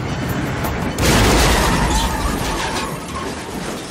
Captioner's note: tires screech